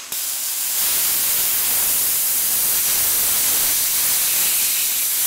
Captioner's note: welder sputtering